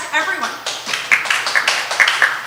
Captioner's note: applause